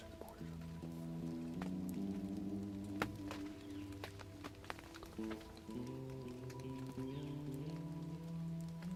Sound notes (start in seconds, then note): 2.3 raindrops falling; 4.2 birds chirping